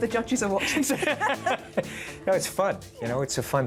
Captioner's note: they laugh